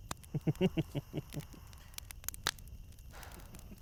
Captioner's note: Miles laughs